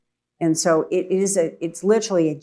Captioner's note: none